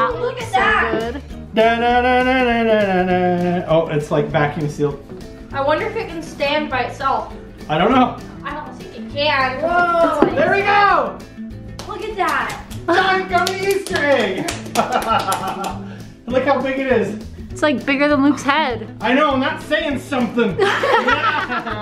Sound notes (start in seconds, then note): 14.2 laughing; 20.6 laughing